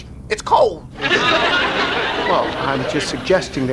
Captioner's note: audience laughs